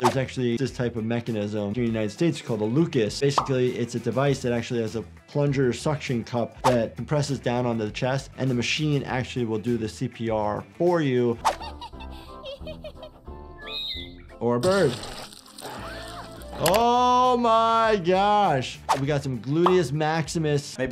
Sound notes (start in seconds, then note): 11.3 graphic whooshes; 11.5 Giggles laughing; 13.5 bird chirping; 14.6 flesh rips; 15.6 giggles gasps